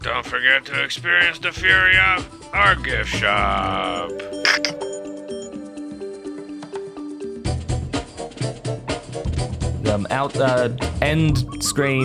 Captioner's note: end screen stammering